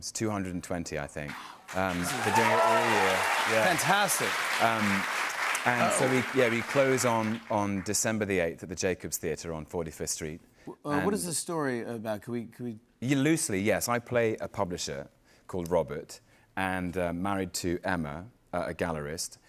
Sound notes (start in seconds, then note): 1.6 cheers and applause